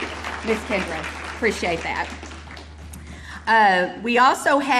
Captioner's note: audience applauding